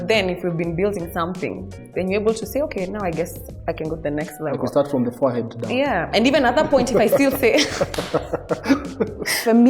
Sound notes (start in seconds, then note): 6.4 laughs